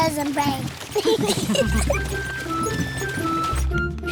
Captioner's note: all giggle